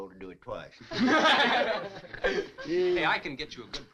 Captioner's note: all chuckling